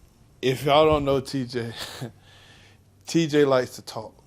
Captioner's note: chuckles